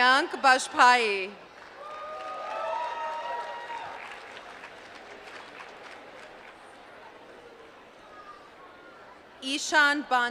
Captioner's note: applause